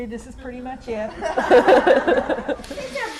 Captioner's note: laughter